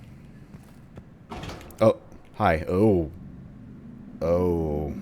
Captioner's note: door opens